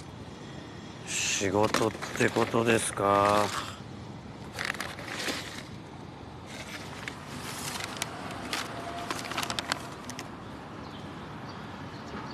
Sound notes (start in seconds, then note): 6.5 unfolds newspaper page